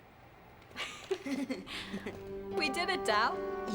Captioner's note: laughing